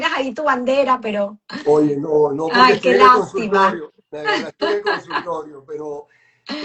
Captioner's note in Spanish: risas